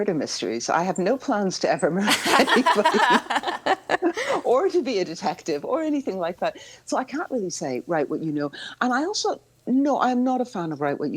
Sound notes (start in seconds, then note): 2.0 all laughing